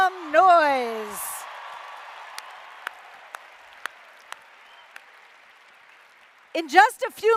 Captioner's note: applause